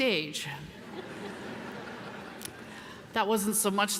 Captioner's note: audience laughs